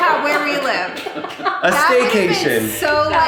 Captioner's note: laughing